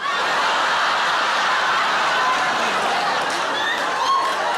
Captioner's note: audience laughing